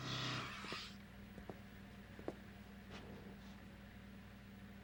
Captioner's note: none